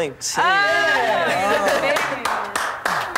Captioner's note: clapping